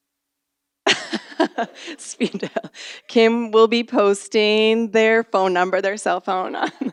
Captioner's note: laughs